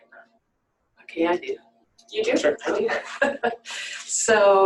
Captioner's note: laughter